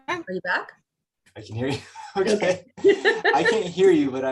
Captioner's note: laughs; chuckles